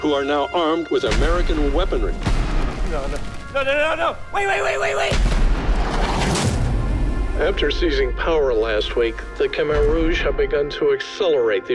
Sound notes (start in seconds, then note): 2.2 rocket launchers firing; 5.4 rockets booming